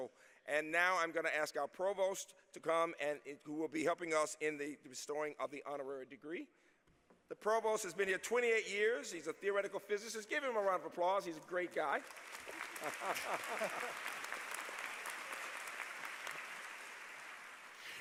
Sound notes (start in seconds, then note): 12.5 laughter; 13.4 applause